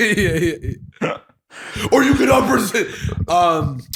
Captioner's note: laughter